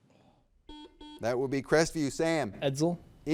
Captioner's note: buzzer beeps